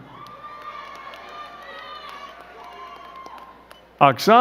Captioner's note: crowd cheering and clapping